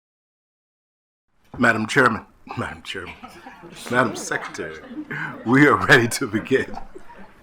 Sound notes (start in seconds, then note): 2.5 laughs